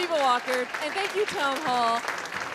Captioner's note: applause